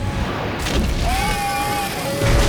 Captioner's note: gasping